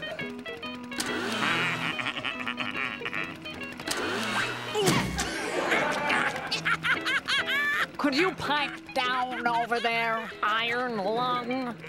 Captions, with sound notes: [giggling] [laughing] Could you pipe down over there, iron lung?